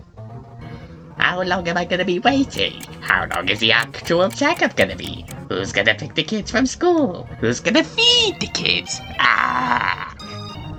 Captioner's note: frustrated groan